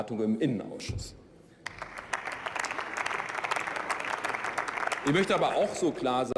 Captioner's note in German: Beifall